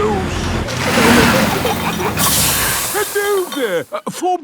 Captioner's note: peppa and george giggling; air hisses